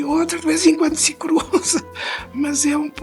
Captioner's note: laughs